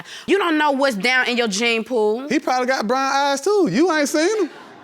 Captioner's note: audience laughing